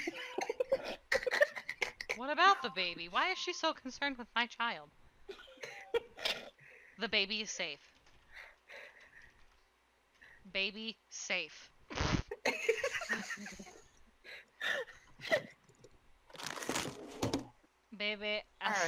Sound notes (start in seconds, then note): 0.0 cackling; 12.5 everyone laughs